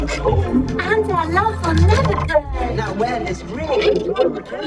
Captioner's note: glitched groaning; glitched, stuttered audio